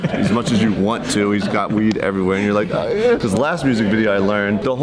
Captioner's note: strained noises